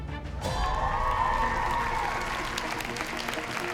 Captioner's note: crowd cheering